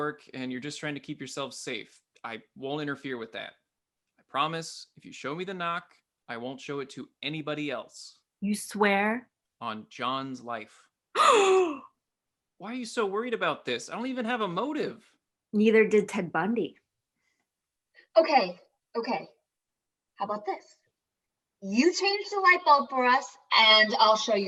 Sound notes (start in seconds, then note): 11.1 both gasp loudly